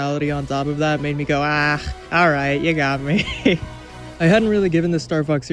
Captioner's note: laughs